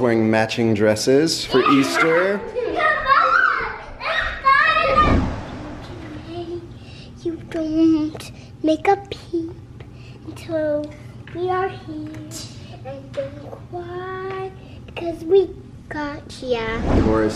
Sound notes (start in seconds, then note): 2.4 girls laughing; 6.3 singsong